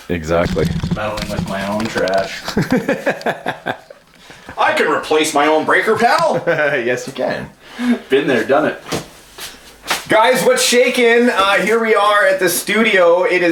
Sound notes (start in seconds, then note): 2.2 laughing; 6.2 laughing